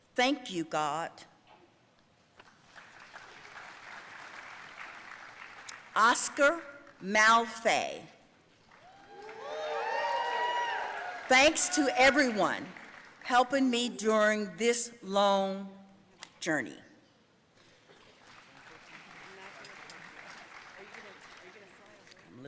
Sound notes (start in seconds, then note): 2.5 audience applauding; 8.7 audience cheering and applauding; 17.9 audience applauding